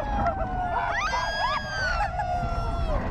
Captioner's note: screaming